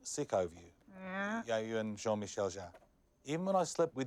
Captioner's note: speaks foreign language